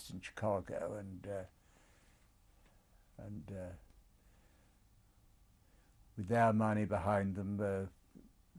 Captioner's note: pauses for 3 seconds